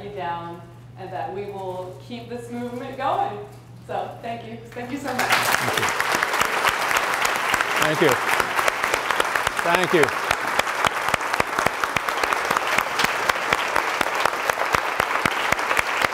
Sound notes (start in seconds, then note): 10.2 applause